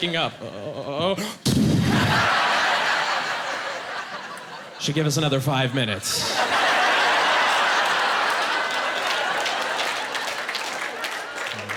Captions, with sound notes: Like, "He's waking up! Uh-oh!" (Making punching sound effect) "Should give us another five minutes." (Laughing, applause)